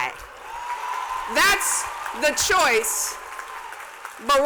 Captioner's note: cheers and applause